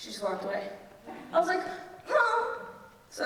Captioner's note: crying